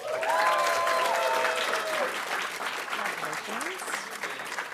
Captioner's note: audience applauding